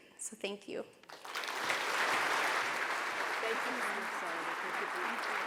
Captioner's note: audience applauds